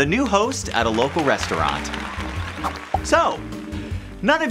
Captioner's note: crowd cheering